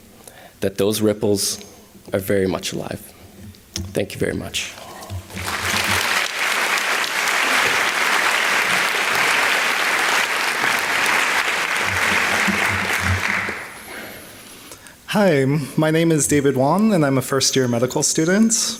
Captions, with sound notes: that those ripples are very much alive. Thank you very much. [ Applause ] >> Hi. My name is David Won and I'm a first-year medical student.